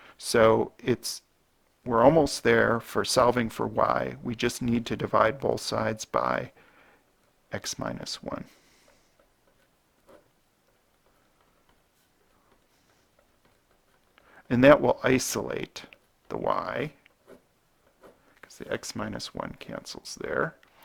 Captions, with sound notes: So, we're almost there for solving for y. We just need to divide both sides by x minus 1. [ Writing ] And, that will isolate the y, because the x minus 1 cancels there.